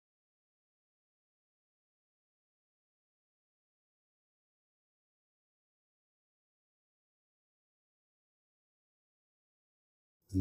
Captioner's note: silence